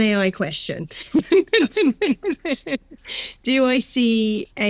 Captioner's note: laughing